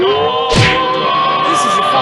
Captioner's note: crash!